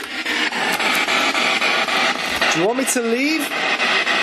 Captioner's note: static pulsing